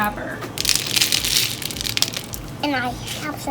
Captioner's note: seeds dropping